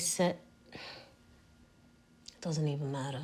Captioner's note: sighs